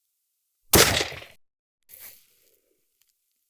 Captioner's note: gunshot